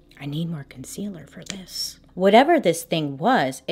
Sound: none

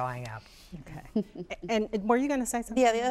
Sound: laughing

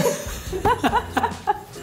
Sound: laughs; outro music

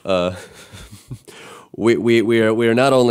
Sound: chuckling

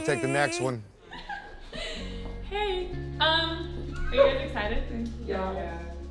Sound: giggles

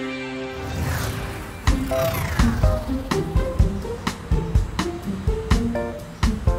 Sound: upbeat music; electricity whirring

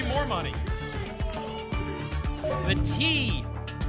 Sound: audience shouting letters

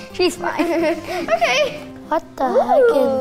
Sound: laughing

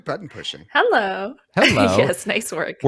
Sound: laughs

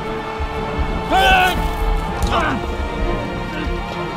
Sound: gunshots booming; man yelling

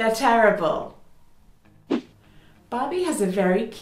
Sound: whoosh

